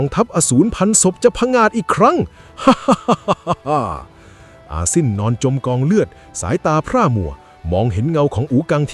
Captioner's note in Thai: เสียงหัวเราะ